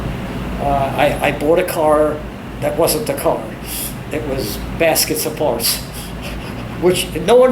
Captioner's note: laughs